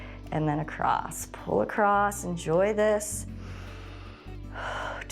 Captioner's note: exhales; inhales